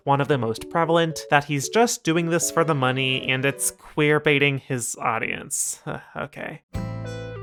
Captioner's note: sigh